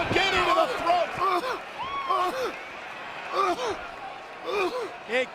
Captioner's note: Batista coughing